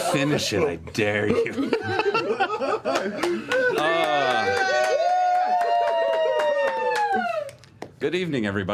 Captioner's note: cheering